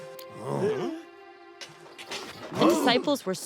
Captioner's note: grunts